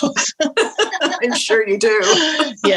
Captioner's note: laughing together